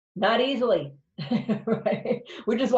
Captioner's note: laughs